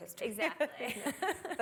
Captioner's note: laughter